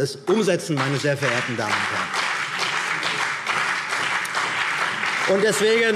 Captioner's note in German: Beifall CDU und BÜNDNIS 90/DIE GRÜNEN